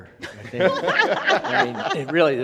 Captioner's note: all laugh